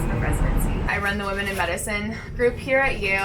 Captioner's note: papers rustling